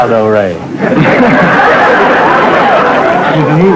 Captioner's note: laughter